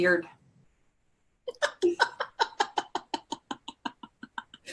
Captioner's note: laughs